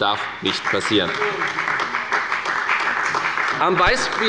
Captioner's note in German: Beifall bei der FDP und bei Abgeordneten der CDU